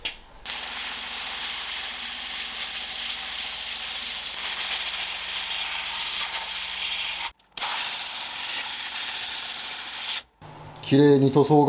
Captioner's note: cleaning sound